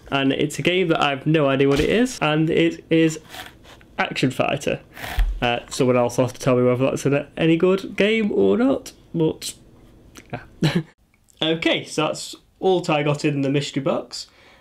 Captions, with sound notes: And it's a game I've no idea ... what it is. And it is ... Action Fighter. Someone else will have to me .... whether that's any good, game or not. But ... Yeah [Laughs] Okay, so that's all that I got in the mystery box.